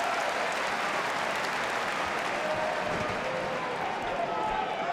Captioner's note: crowd claps and shouts